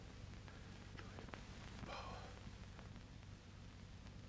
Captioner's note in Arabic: همس